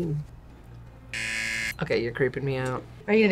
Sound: buzzer rings

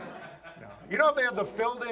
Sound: audience laughs

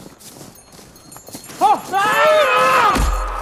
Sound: screams

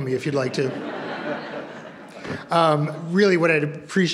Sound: audience laughs

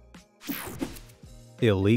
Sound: graphics whooshing

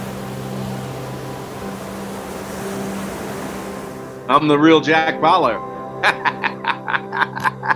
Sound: laughing

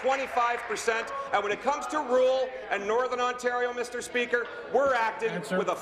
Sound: applause

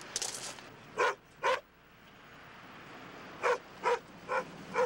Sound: dog barks

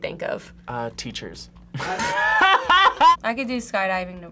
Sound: both laugh

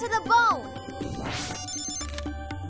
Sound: beeps

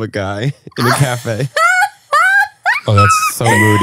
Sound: laughs

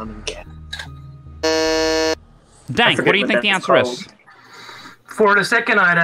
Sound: buzzes

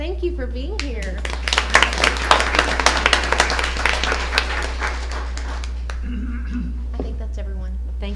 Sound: applause

